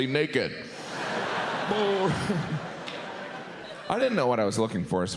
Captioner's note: audience laughs